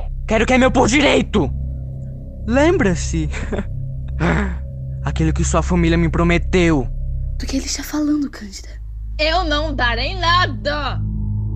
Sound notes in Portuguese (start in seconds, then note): 3.3 Riso malicioso